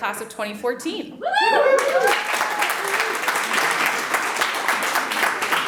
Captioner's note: audience applauds